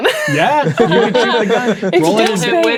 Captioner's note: players laughing